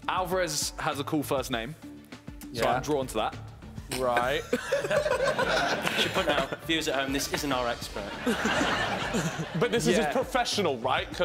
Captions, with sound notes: Alvarez has a cool first name. So, I'm drawn to that. - Right. (chuckling) - You should know, this isn't our expert. - But this is a professional, right,